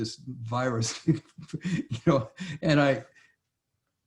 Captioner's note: laughs